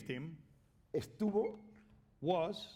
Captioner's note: speaking spanish